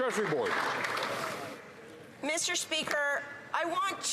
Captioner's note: some Applause